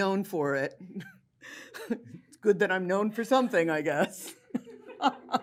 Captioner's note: laughs; laughter